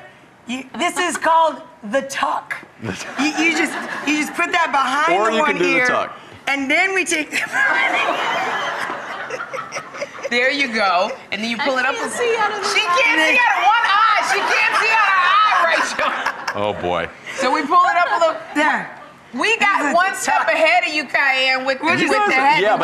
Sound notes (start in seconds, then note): 7.3 laughter